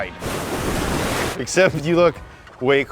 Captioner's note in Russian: волны разбиваются